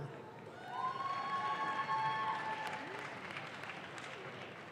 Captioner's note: audience claps